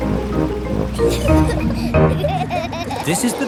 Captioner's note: children giggling